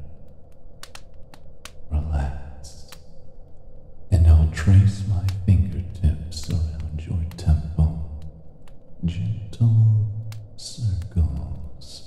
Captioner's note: whispered